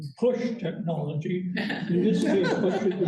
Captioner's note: laughter